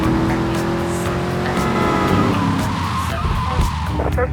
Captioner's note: sirens